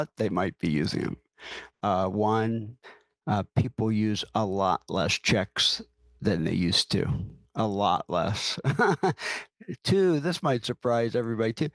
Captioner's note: laughs